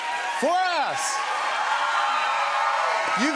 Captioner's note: cheers and applause